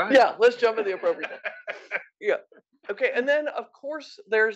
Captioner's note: laugh